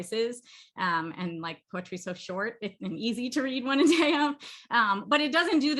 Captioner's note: laughter